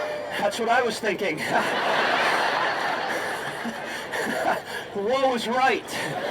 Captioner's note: laughs